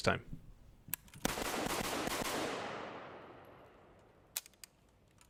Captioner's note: gun fires multiple times